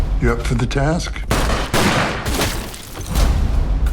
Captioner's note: gunshots